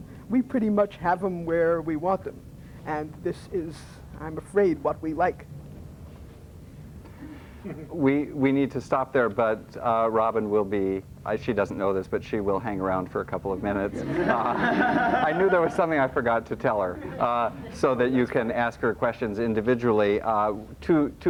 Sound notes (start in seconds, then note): 13.9 laughter